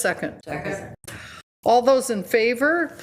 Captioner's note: agreeing